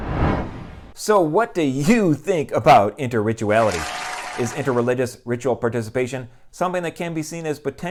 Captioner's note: applause